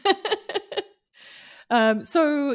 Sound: chuckles

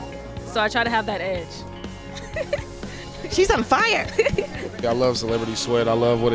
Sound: laughs

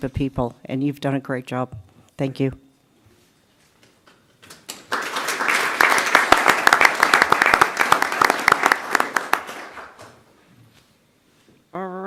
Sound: applause

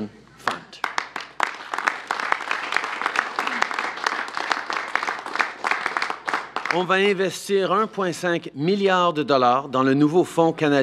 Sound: applause

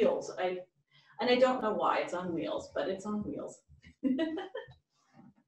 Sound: laughs

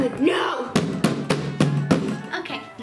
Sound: thumping on box

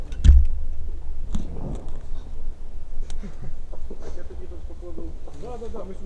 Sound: voices, remote explosions

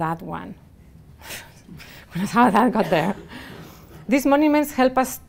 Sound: laughing

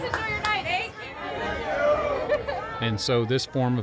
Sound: crowd

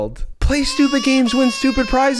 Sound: baby crying

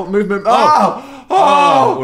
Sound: moaning

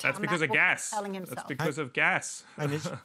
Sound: chuckles

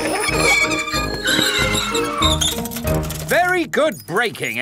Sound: giggling and ringing bells; tires screech

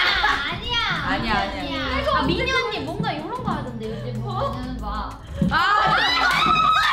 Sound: speaks in Korean; everyone laughing

